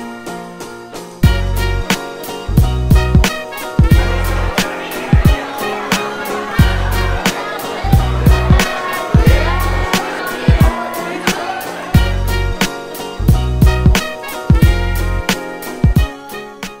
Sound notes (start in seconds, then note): 1.3 upbeat jazzy music; 3.8 overlapping chatter